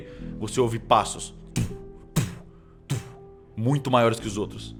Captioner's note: thump thump thump